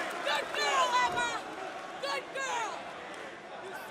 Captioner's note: crowd chatter